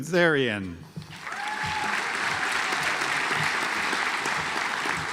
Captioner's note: audience applauds